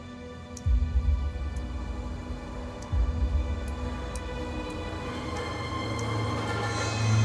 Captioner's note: dripping